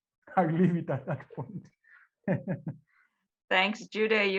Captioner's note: chuckling